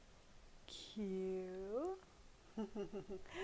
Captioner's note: laughs